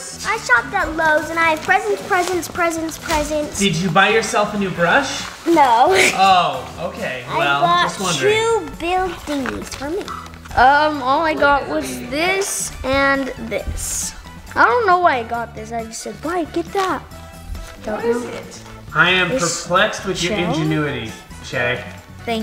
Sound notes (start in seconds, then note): 5.8 small laugh